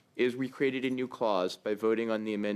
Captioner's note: speaking French